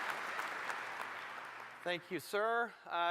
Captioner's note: applause